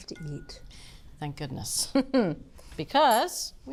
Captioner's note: laughing